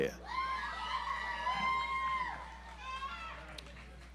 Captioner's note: audience applauds